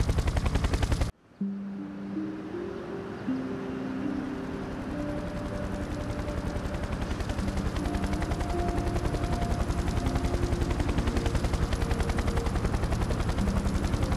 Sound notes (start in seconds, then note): 5.8 helicopter blades whirring